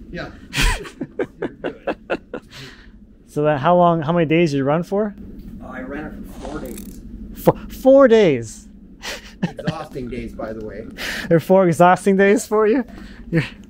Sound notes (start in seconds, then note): 0.4 laughing; 9.0 laughs